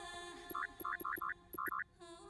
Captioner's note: machine processing